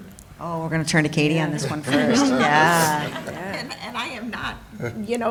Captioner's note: laughter